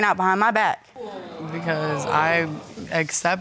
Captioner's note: audience exclaiming